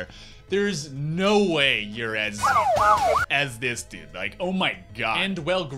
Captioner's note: police siren